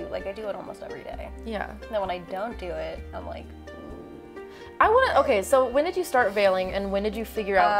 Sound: groans

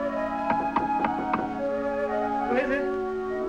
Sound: knocking

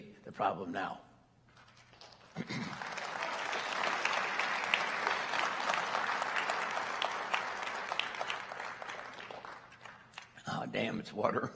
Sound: applause

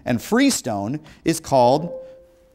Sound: beeping

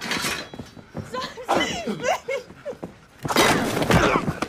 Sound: sobs

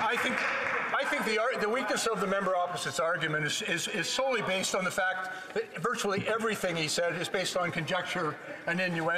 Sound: applause

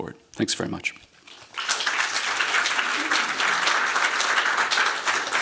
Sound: applause

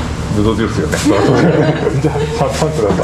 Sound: laughs

